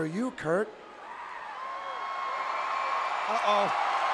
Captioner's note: audience cheering